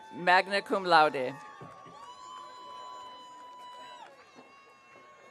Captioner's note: audience cheering